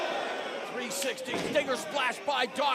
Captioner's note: crowd chatter